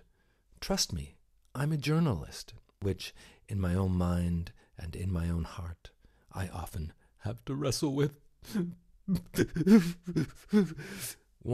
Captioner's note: sob